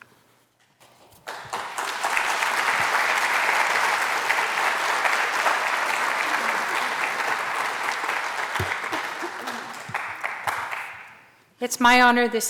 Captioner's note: applause